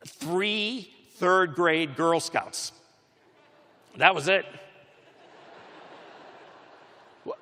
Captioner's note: laughter